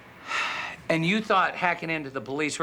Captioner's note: sighs